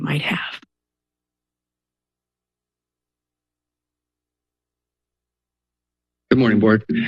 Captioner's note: silence